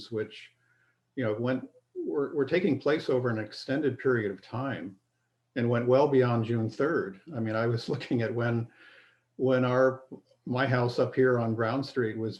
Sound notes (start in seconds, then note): 8.6 laughter